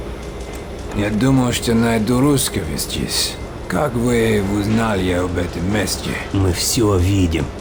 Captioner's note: in Russian